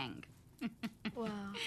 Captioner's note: laughing